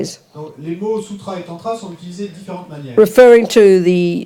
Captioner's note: audience member speaks in French